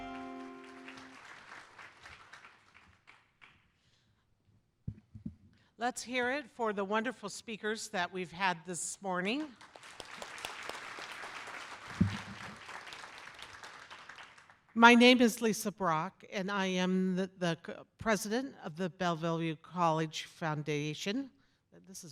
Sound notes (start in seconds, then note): 0.0 applause; 9.5 applause